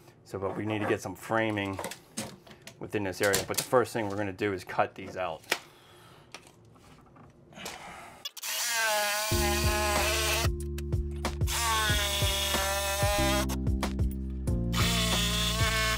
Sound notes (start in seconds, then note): 8.4 drill buzzes; 9.2 relaxed music